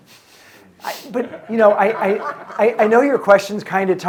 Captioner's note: audience member chuckling